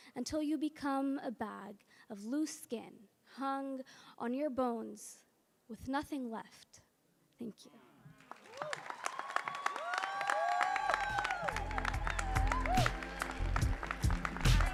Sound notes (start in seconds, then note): 9.8 audience cheering and applauding; 10.9 mellow music